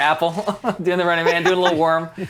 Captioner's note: laugh